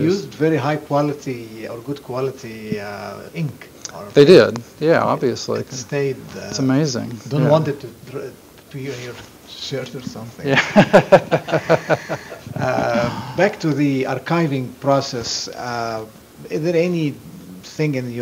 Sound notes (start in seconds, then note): 10.5 laughter